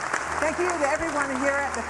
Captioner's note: applause